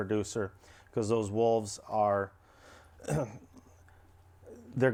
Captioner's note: clears throat